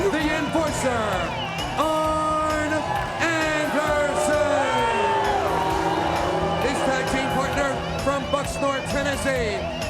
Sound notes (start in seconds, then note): 4.2 crowd boos